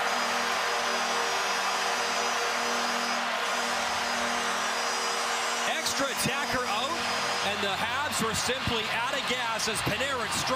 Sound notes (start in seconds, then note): 3.7 cheering and Applause; 5.0 horn